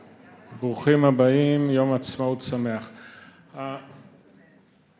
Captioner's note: speaks in Hebrew